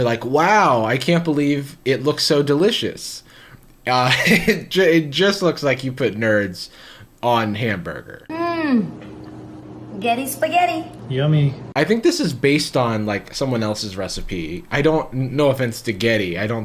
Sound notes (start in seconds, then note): 4.0 laughs